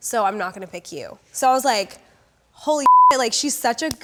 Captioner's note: beep